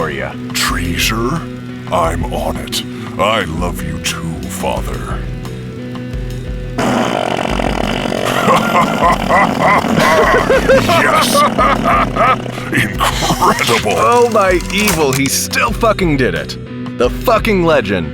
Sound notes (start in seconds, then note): 5.0 a long farting sound; 7.5 the tape stops; 14.2 laughing